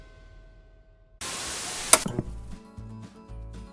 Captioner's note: static hissing; upbeat western music